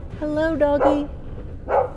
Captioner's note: dog barking